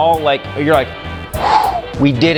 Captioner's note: exhales